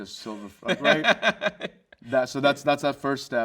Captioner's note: host laughs